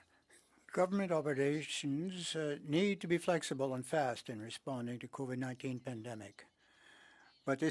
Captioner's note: speaking French